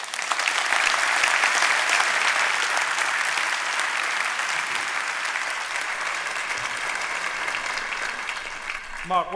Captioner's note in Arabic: تصفيق